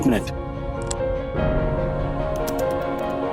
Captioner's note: intense music; keys clicking